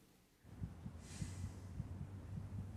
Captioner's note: heart beating